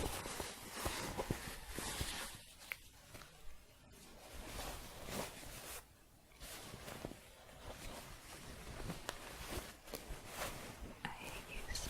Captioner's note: shuffling